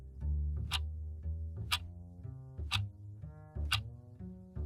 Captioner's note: clock ticking